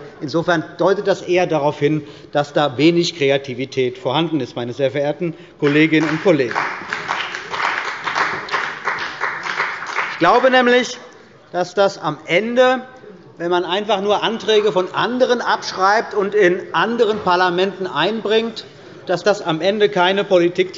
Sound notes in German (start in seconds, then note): 7.9 Beifall bei der CDU und dem BÜNDNIS 90/DIE GRÜNEN